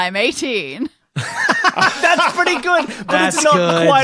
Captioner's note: laugh uproariously